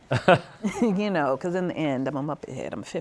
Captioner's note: laughs